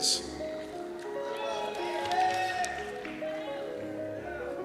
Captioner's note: cheers